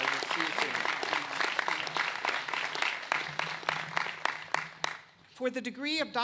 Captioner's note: applause